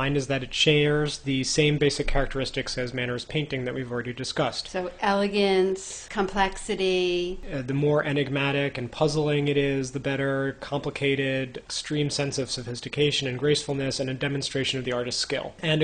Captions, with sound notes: is that it shares the same basic characteristics as Mannerist painting that we've already discussed. - [Voiceover] So elegance, complexity.... - [Voiceover] The more enigmatic and puzzling it is, the better. Complicated, extreme sense of sophistication and gracefulness, and a demonstration of the artist's skill.